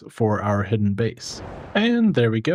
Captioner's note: whooshing